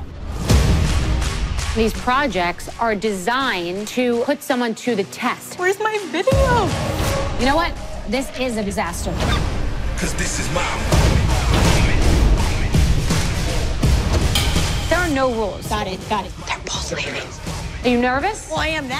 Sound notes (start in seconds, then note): 9.0 yelps; 16.3 whispers